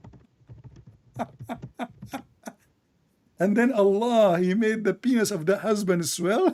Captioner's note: Ketawa